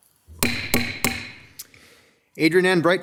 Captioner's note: gavel banging